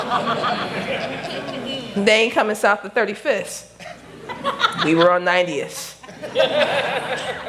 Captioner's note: laughter